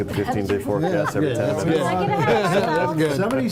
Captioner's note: laughter and banter